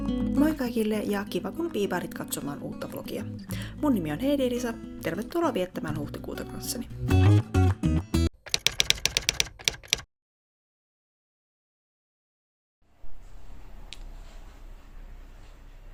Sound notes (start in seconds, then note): 8.4 typewriter tapping